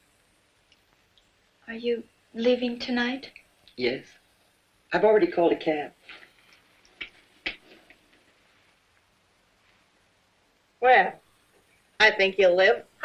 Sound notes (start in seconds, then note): none